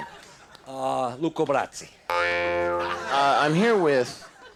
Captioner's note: audience laughs